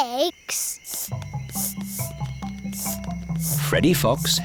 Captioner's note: sniffing